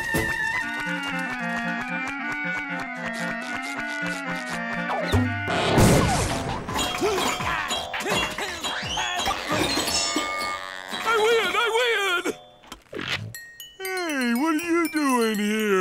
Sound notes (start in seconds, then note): 6.5 thudding